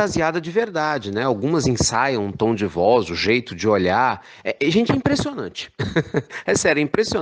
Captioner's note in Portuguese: risos